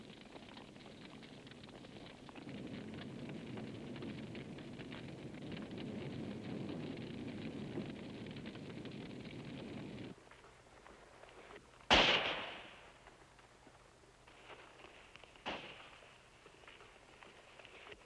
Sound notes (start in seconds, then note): 3.3 fire crackling; 11.9 gunshot